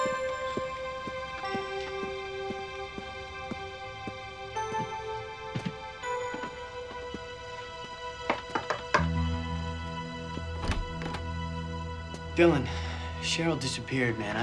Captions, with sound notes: (knocks on door) - Dylan. Sheryl disappeared, man.